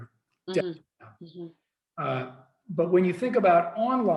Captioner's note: faintly speaking